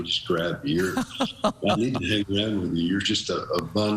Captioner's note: laughing